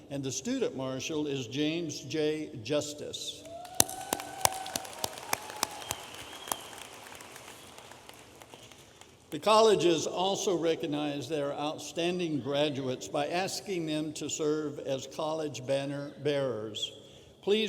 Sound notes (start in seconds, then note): 3.5 audience applauding